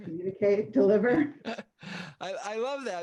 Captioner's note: both laughing